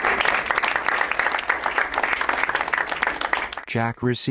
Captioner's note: crowd applauds